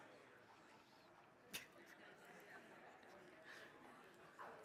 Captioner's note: crowd chattering